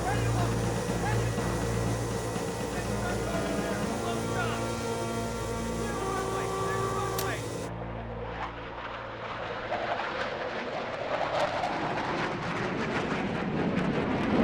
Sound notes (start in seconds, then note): 0.0 intense music; 7.7 aircraft whooshing